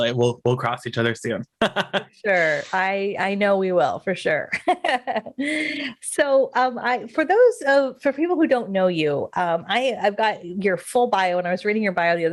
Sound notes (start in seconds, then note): 1.5 laughs; 4.2 laughs